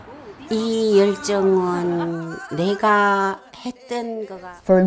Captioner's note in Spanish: Hablando en coreano